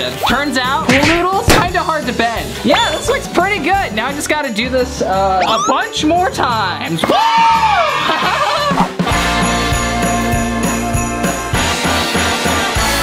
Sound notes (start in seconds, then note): 7.0 cheering